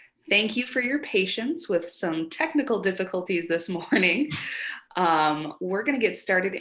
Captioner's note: chuckles